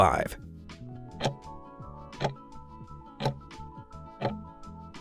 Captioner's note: timer ticking